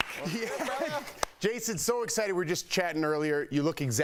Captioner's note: applause